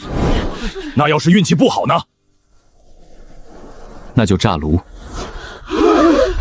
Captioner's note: furnace explosion